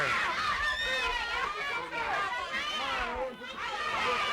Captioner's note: crowd yelling